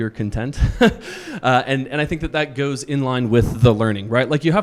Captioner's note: chuckles